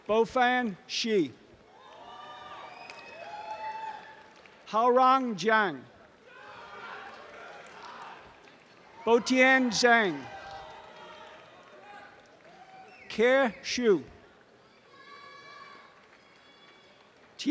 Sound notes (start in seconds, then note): 6.2 applause and cheering; 10.5 audience applause